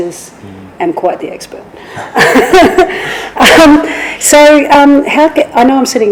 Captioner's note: laughs